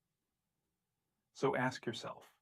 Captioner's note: long pause